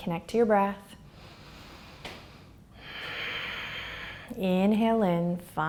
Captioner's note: breathing heavily